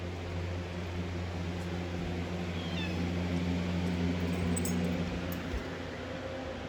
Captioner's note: Caprice meows